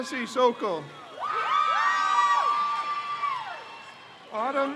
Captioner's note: crowd cheers